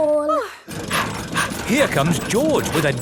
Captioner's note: daddy pig panting